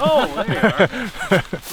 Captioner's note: all laughing